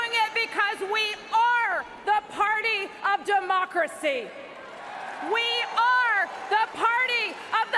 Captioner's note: cheers and applause